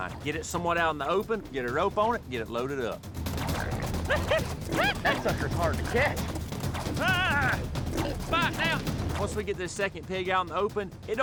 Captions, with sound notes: GET IT SOMEWHAT OUT IN THE OPEN... GET A ROPE ON IT AND GET IT LOADED UP. [SHOUTING] THAT SUCKER'S HARD TO CATCH. [SHOUTING] ONCE WE GET THIS SECOND PIG OUT IN THE OPEN,